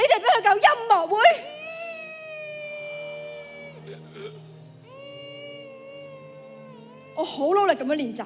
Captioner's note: sobbing